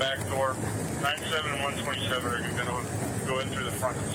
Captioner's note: radio chatter